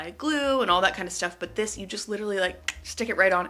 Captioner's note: clicks tongue